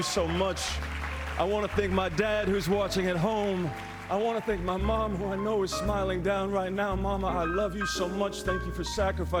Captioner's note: applause